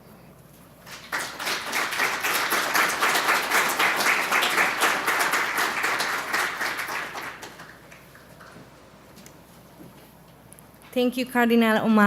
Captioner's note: applause